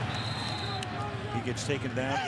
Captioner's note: whistle